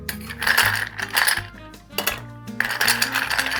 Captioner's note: ice rattling